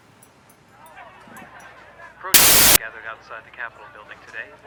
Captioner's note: crowd chattering